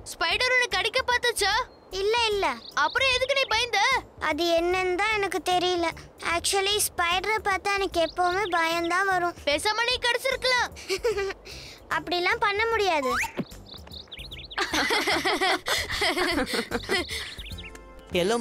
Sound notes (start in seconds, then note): 10.8 laughing